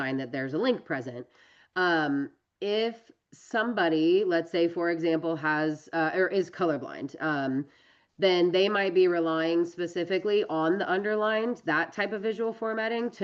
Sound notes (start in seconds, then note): none